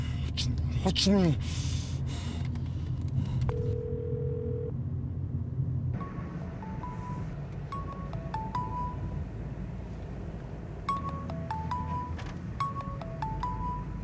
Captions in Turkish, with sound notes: Açmıyor. Açmıyor. [Telefon çalıyor]